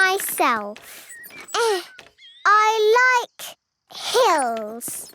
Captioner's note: grunting